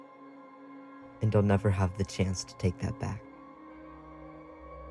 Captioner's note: voiceover